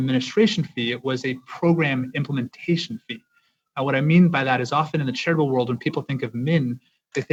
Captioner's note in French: voix de l'interprète